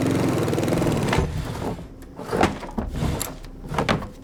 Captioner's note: objects clattering